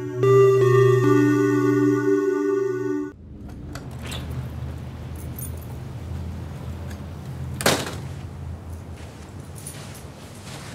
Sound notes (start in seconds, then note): 3.3 door Opens, then Closes